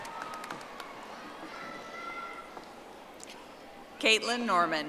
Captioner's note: audience applauding